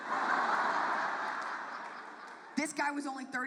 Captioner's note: audience laughs